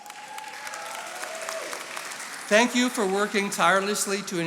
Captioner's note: attendees applauding